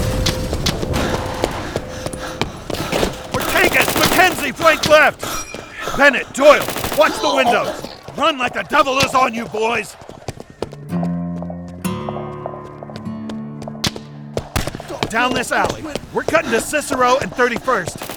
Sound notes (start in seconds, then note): 0.0 noise of explosion; 0.3 panting, running noise; 2.7 gunshots; 6.4 gun shots, people grunting